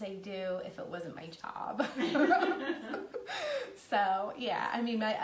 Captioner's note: laughing